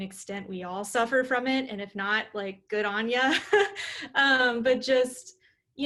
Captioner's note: laughter